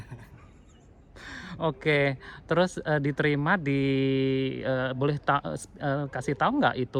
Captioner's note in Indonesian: tertawa; terkesiap